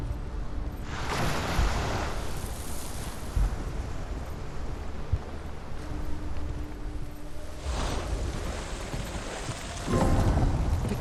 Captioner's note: thunder